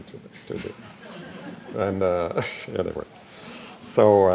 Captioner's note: laughing